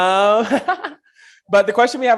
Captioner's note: person laughing